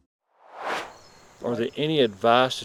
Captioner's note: air swooshes